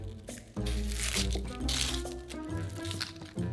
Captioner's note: onion paper rustling